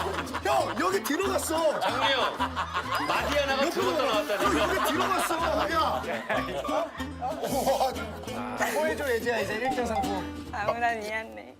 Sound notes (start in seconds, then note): 2.7 is laughing now; 6.2 crying